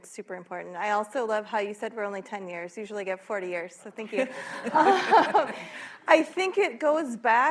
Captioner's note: laughter